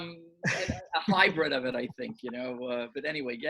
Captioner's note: laughing